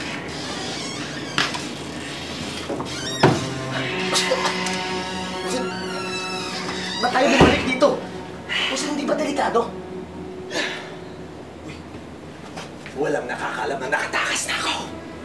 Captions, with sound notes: [coughs] Boss, why did we come back here? Boss, isn’t it dangerous? [Alex grunts] Hey, no one knows that I've escaped!